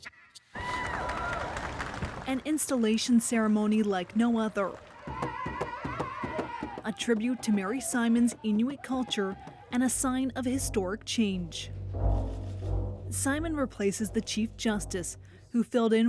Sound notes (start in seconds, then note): 4.3 cheers and Applause